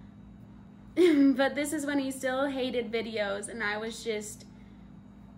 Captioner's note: laughs